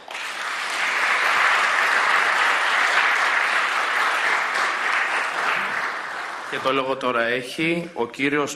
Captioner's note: applause